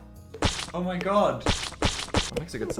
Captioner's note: slime squishes